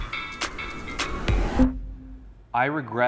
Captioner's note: rising whoosh; electronic bloop